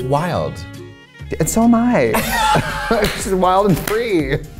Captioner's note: both laughing